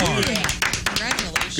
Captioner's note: audience Applauding